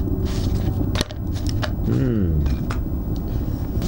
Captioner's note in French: Mmmmmmm